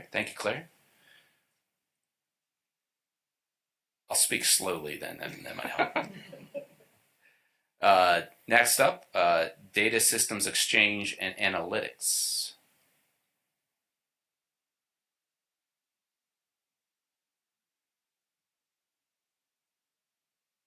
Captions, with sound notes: >>>: Thank you. >>>: I will speak slowly then. [LAUGHTER] >>>: Next up, Data System Exchange and Analytics. >>>: Okay.